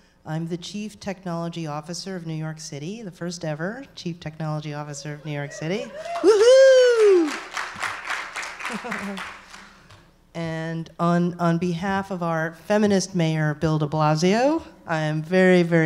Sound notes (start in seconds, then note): 7.8 applause